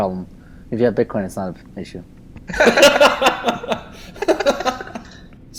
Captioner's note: laughs